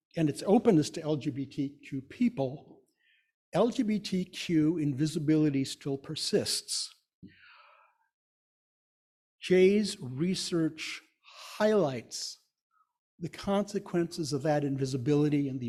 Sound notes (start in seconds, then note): none